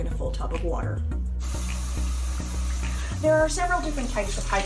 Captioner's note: water running